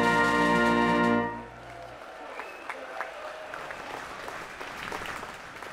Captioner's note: applause